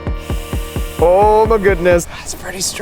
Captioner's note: upbeat synth music; wood sizzling